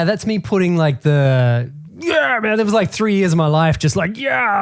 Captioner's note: grunts